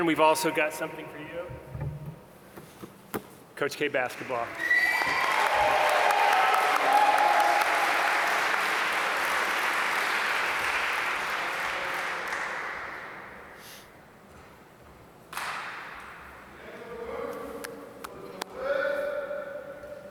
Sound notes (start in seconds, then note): 5.4 applause